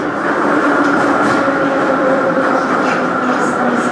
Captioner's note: braking - arrival at the station